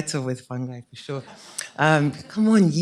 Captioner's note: laughter